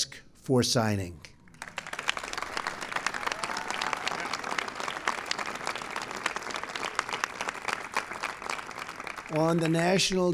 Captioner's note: applause